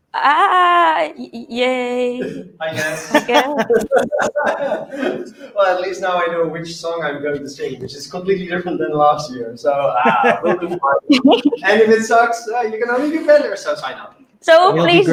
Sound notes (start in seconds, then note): 9.5 laughter